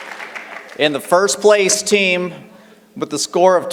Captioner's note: applause